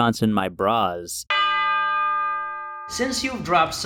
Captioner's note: bell tolls